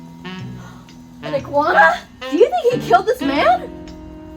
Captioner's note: gasps